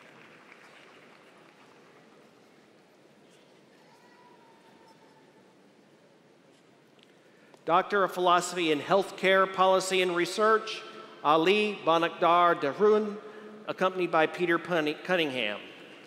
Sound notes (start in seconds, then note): 0.0 applause